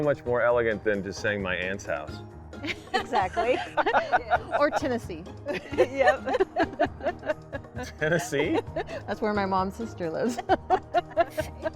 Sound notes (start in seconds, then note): 2.7 laughs; 10.3 laughs